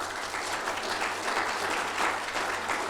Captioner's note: applause